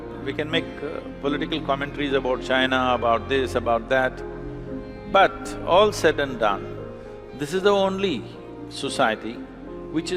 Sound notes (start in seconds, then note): none